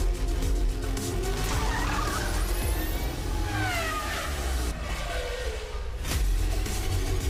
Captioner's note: tires screeching